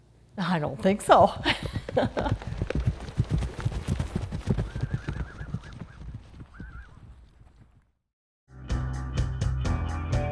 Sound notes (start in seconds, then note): 1.1 laughs; 2.5 galloping; 2.5 horse neighing